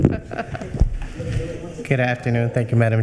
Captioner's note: chuckling